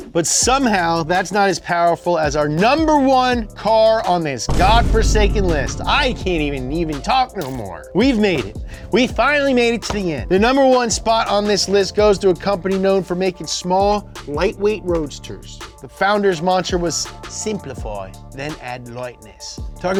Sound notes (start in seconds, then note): 7.8 spit sound